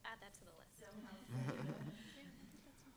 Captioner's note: laughs